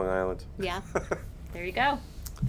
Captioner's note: chuckles